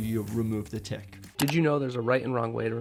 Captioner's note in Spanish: clic